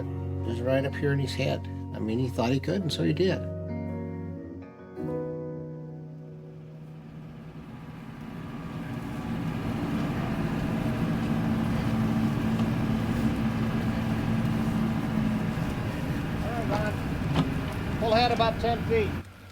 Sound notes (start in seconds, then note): 9.7 truck engine